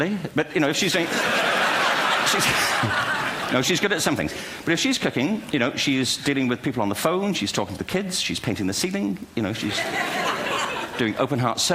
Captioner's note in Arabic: ضحك